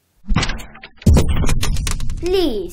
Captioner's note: thud! Crash!